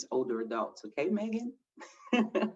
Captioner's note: chuckles